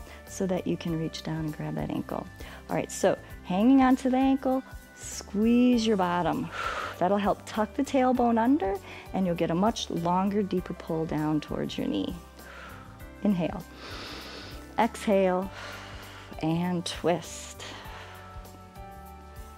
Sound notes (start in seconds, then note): 13.6 exhales; 13.6 inhales